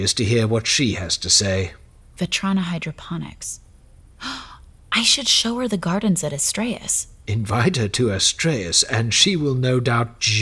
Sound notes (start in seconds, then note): 4.2 gasp